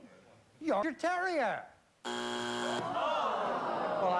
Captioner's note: buzzer